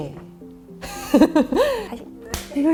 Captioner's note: laughes